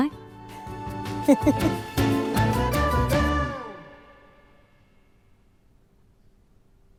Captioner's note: bright upbeat music; chuckling